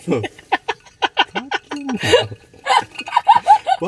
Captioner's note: laughs